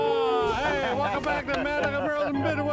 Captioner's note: clapping